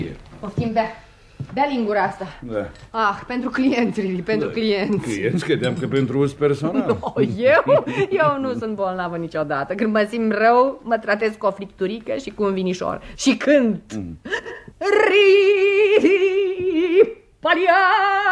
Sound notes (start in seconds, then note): 15.8 hums a tune